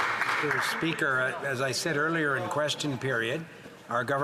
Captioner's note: some Applause